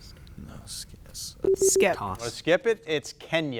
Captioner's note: buzzer bleeping